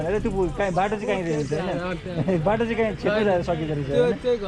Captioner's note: laughs